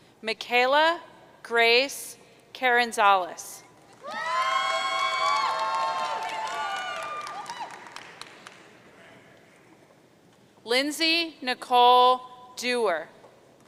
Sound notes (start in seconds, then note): 4.0 audience cheering